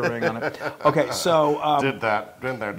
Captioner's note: laugh